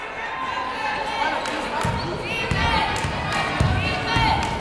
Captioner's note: yelling